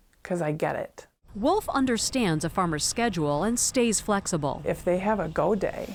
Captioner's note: voice-over